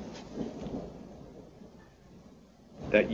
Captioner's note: thunder rumbling